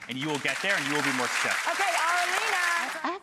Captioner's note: audience applauding